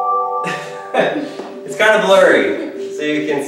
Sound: laughs

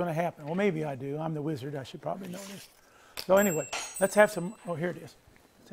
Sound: ringing

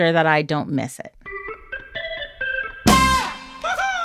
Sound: soundbite of tv show, "the simpsons"

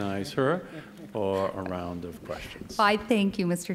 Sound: laughter

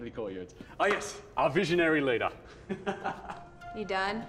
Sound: laughing

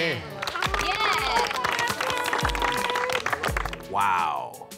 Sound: applause

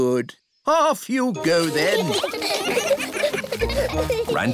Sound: giggling

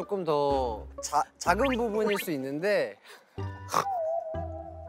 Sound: pffft

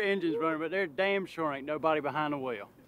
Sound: laughs

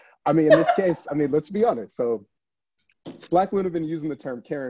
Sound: laughs

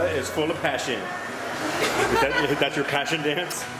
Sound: laughing

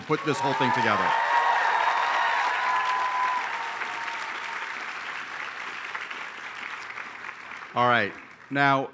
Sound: applause

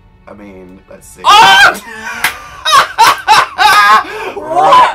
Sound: laughs

